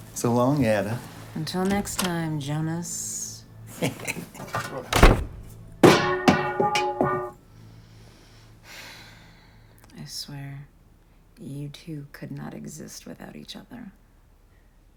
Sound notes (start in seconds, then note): 3.7 chuckles